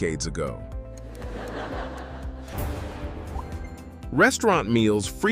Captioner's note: laugh